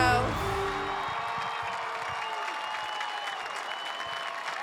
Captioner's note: audience cheers